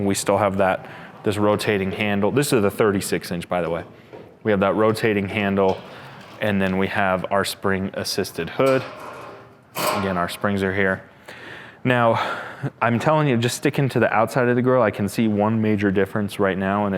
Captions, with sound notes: We still have that this rotating handle, this are the 36 inch by the way. We have that rotating handle, and then we have our spring assisted hood (clangs) again, our springs are here. Now I'm telling you just sticking to the outside of the grill, I can see one major difference right now